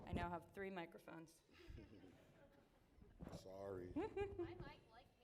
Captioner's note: laughter